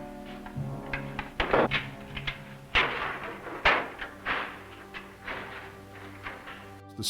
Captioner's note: sound of jail door closing